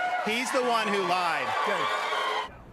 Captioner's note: cheering and applause